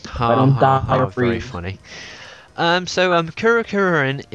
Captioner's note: sarcastically